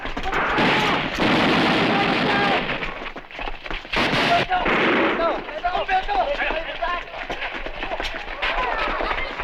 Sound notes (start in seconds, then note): 3.7 non-english speech